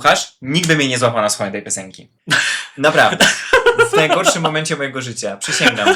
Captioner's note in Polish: śmiech